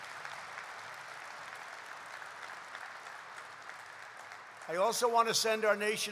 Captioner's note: applause